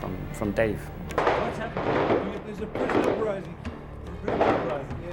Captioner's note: gunshots